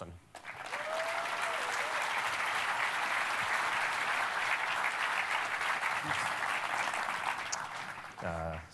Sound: cheering and applause

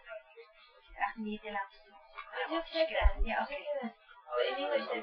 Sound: speaking Farsi

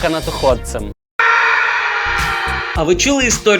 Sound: the scream of a person

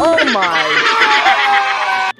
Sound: children cheering; upbeat music

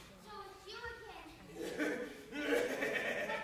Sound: Wolf laughs

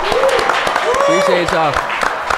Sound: audience applauding

